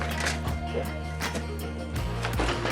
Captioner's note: metal clanging